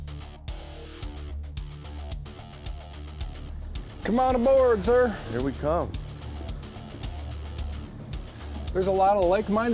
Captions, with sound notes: - [Voiceover] Come on aboard sir. - [Voiceover] Here we come. - [Voiceover] There's a lot of like minded